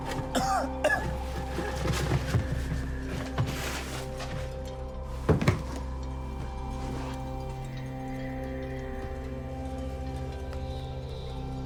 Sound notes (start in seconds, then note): 0.1 Malcolm coughing; 8.2 suspenseful music